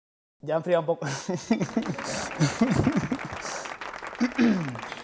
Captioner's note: laughs